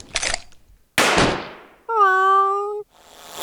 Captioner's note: explosion; meowing